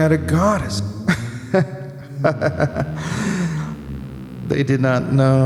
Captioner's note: laughing